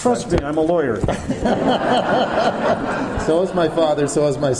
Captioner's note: audience laughter